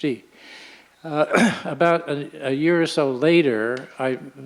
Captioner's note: clears throat